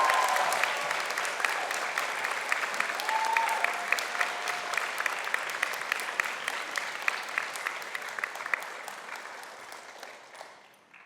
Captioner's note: applause